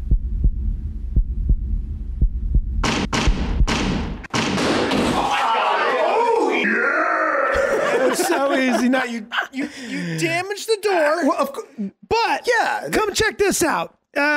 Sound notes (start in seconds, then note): 0.0 heart beating; 2.8 door crashing; 7.5 Meg laughing; 7.7 group chattering